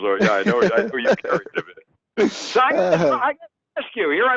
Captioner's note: laughing